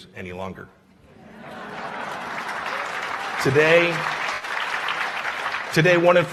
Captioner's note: laughter and applause